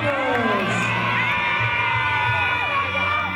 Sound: cheering

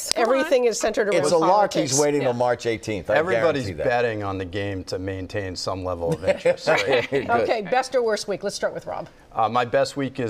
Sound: laughter

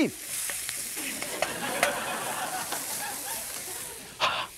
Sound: audience laughs; breathes hard

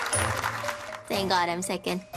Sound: clapping

